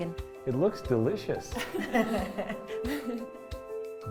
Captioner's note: laughing